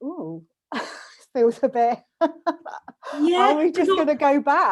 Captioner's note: laughs